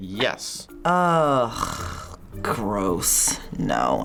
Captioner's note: groaning